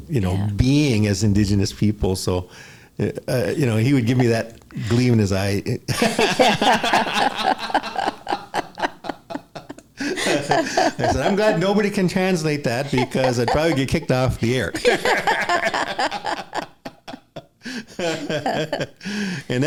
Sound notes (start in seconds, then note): 12.6 laughter